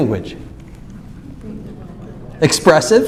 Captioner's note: speaking off mic